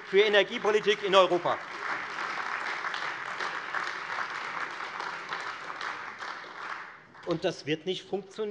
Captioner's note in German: Beifall Freie Demokraten und AfD